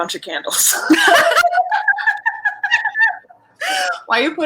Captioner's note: all laughing